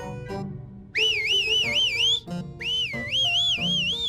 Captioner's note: whistles victoriously